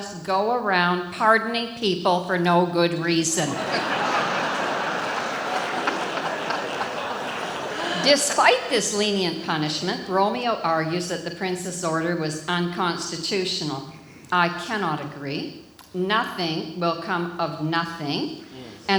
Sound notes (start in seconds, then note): 3.5 audience laughs